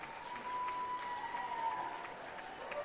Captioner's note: cheering and Applause